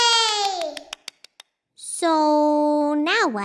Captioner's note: clapping